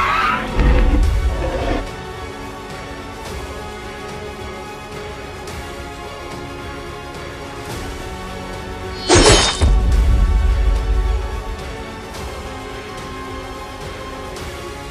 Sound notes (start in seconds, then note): 0.0 Indominus screeches; 3.1 intense Music; 9.0 crashing sounds